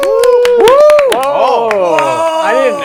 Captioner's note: cheering